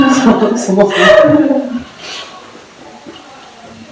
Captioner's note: laughs